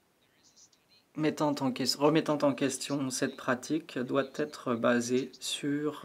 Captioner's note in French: voix de l'interprète